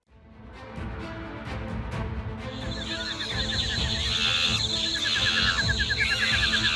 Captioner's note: dramatic music; monkeys screeching